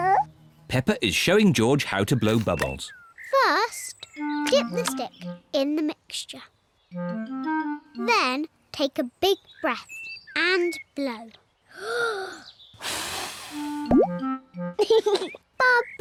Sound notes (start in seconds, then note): 12.7 takes big breath and blows; 14.8 laughs